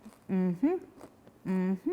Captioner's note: crunches crackers